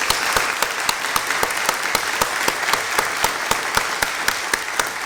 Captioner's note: applause